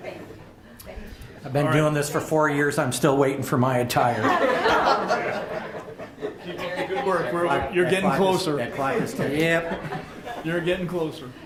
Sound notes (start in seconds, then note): 0.0 laughs; 6.2 everyone laughs